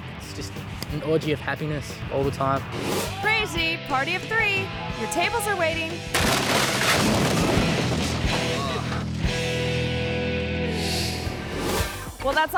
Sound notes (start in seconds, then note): 2.5 image whooshes; 6.1 tables clattering; 6.1 boxes pounding; 8.5 man grunting; 8.6 upbeat music; 10.8 image whooshes